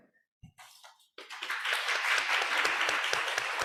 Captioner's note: applause